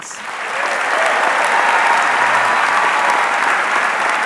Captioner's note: audience clapping